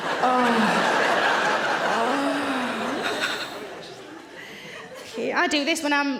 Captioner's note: audience laughing; Sarah moaning